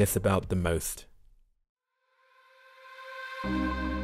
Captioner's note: voiceover